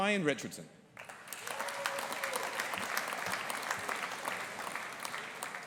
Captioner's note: audience applauding